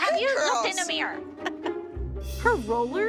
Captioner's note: laughs